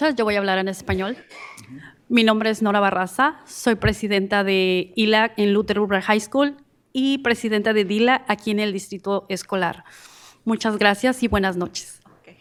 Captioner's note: speaking in spanish